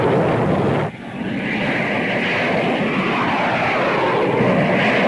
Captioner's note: explosions booming; plane engines roaring